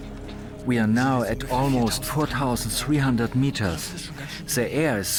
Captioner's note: in German